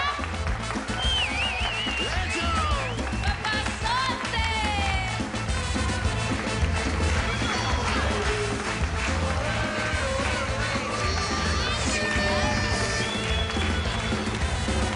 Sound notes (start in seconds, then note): 0.0 Aplausos; 2.2 Aplausos; 6.1 Aplausos